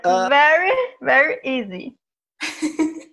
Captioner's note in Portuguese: risos